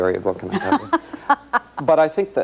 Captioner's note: laughs